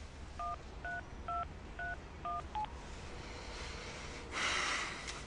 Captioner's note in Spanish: Sonido al marcar